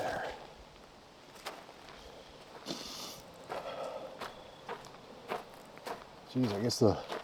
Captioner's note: wind